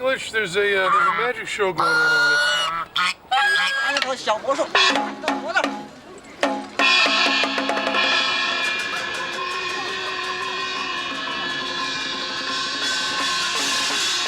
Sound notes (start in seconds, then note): 4.7 non-english speech